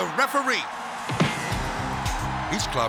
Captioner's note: hit thuds